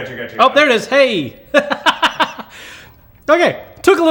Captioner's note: laughs